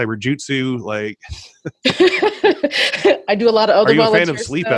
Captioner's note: laughs